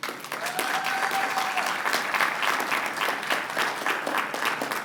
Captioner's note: applause